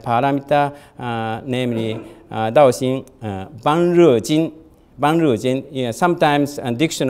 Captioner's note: audience member coughs